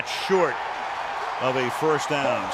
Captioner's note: cheering